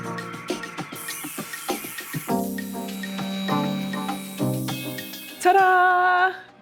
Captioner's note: mellow music continues; sander whirring